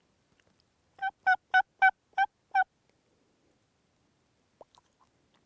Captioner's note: turkey calling